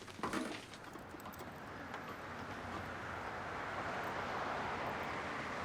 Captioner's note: car engines whirring